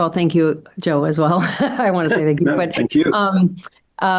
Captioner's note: laughs